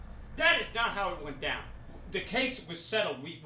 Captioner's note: shouting